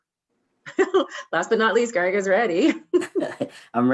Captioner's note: laughs